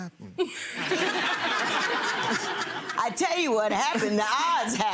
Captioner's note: people laughing